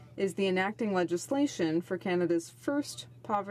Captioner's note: speaking French